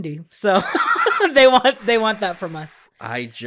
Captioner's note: laughing